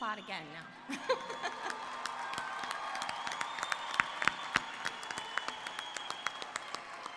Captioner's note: applause